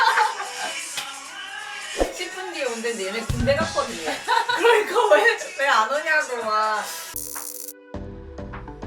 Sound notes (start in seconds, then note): 7.6 laugh